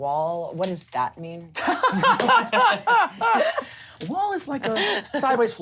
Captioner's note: laughs